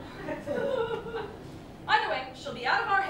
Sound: laughter

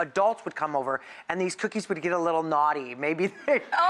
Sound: laughs

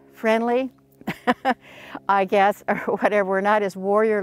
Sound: laughter

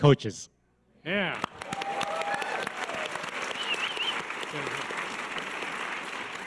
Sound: audience cheers and applause

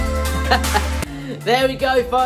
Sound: laughing

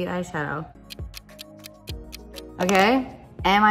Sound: clock ticks

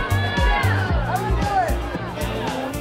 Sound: crowd; light music continues

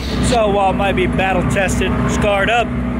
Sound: static sound

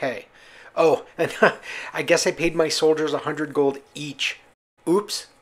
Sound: laugh

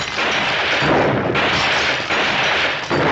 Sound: gunfire continues

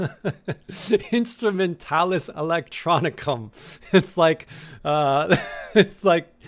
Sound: laughing

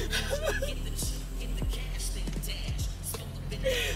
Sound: pensive music; Crystal crying

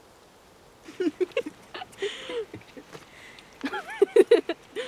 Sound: laughing

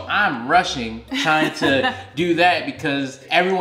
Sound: laughing

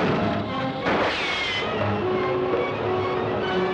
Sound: gun firing

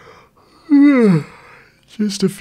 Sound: yawn

